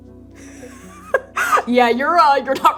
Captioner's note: laughing